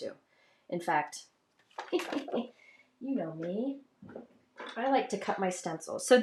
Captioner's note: laughs